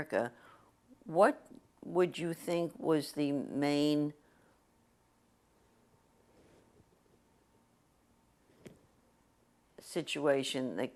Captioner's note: pauses for 6 seconds